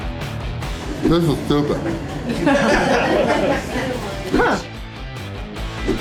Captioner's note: crowd laughter